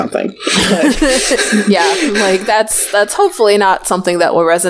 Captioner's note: laughs